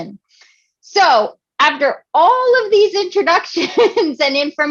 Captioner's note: laughing